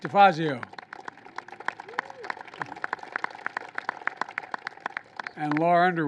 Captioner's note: applause